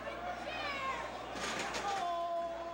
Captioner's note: crowd chatter